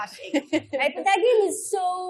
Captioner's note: chuckles